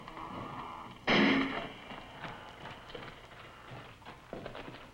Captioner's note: gate slams